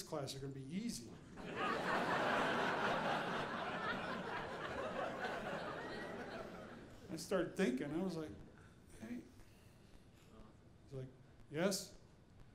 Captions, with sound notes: are gonna be easy. (audience laughing) I start thinking, I was like, he was like, "Yes."